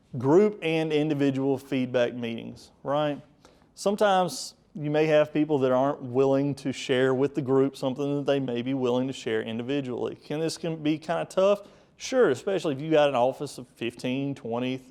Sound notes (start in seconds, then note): none